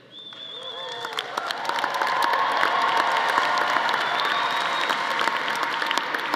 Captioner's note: audience applauding; audience cheering